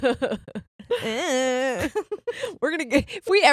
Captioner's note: groaning